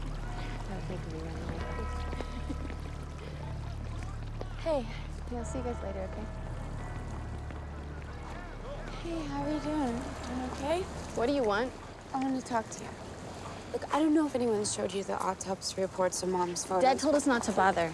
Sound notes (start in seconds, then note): 1.9 laughs